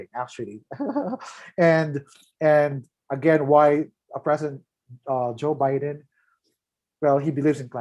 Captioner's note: laughs